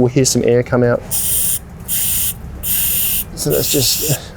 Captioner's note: valve hissing